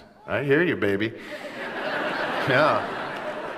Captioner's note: laughter